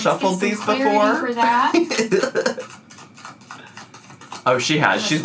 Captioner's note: laughs